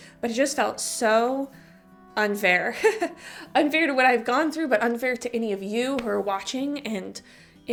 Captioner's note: chuckle